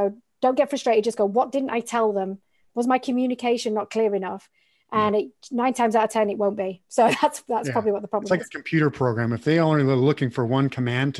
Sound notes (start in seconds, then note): 7.6 laughing